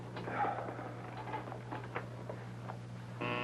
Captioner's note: sighs